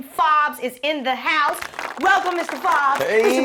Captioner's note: applause